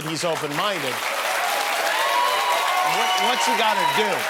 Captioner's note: cheering and applause